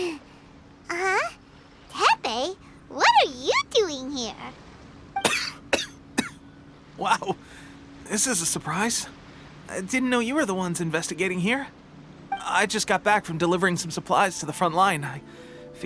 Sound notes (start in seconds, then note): 5.2 cough